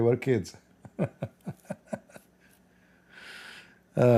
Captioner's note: Ketawa